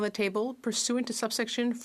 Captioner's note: speaking French